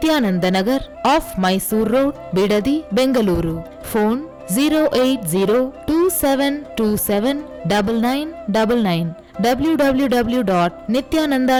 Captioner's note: hindi